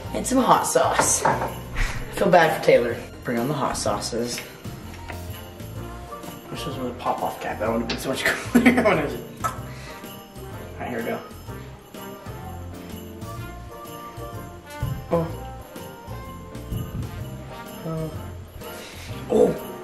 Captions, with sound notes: and some hot sauce. I feel bad for Taylor. Bring on the hot sauces. This is a pop off cap. (laughs) Alright here we go.